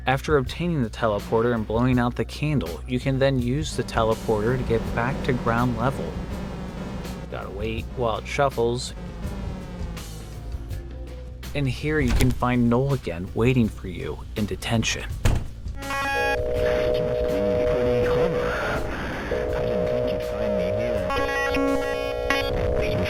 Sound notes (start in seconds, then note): 16.7 glitching noise